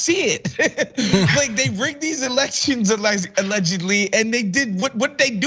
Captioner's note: laugh